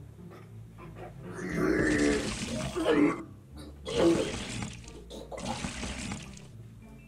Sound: throws up

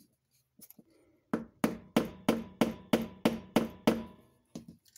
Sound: tapping sound

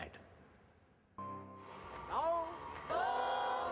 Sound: shouting, chanting

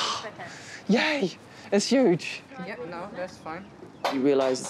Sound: gasps

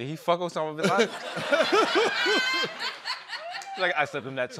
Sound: laughter

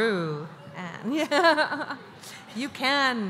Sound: laughter

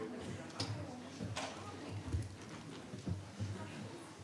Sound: speaking faintly

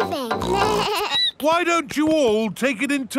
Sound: snorts; bleats

